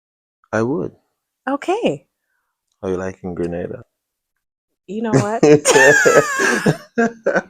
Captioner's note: laughter